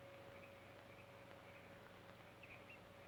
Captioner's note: none